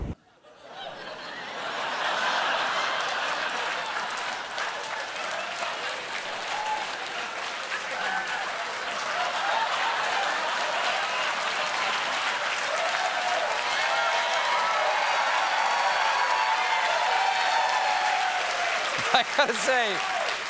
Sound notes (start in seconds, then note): 2.9 laughter; 5.4 applause; 5.4 cheering